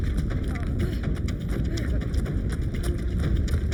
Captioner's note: group panting